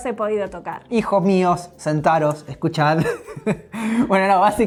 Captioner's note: laughs